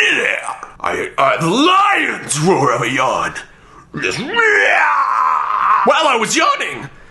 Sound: roars

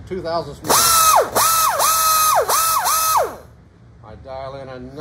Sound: grinder buzzing

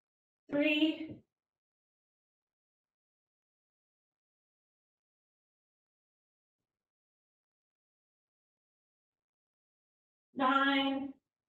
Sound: silence

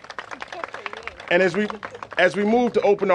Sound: applause

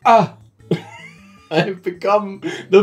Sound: laughing

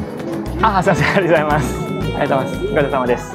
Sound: speaks japanese

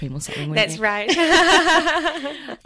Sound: laughs

